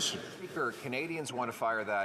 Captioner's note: some Applause